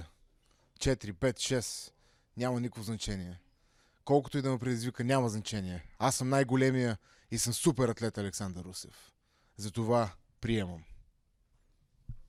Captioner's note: speaking foreign language